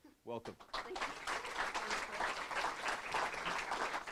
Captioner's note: applause